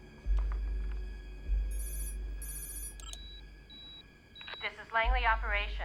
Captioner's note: electronic Beeping